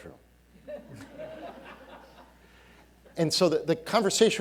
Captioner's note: audience laughing